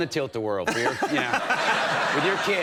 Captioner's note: everybody laughing